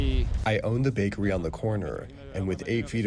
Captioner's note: through translator